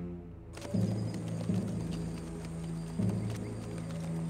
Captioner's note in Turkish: Nal sesleri